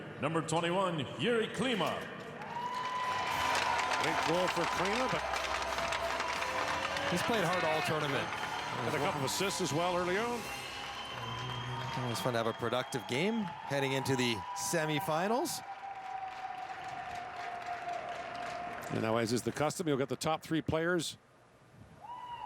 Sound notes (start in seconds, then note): 6.4 cheering and Applause